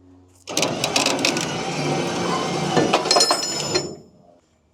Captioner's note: machinery humming